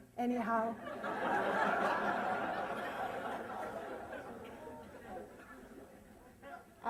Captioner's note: laughter